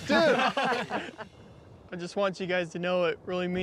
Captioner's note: everyone laughing